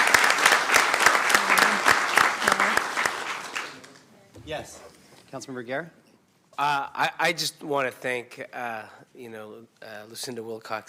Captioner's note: applause